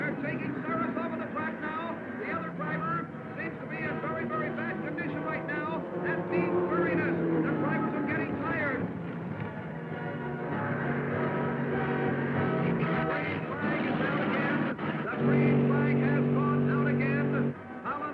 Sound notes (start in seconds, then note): 9.6 dramatic music; 9.8 cars revving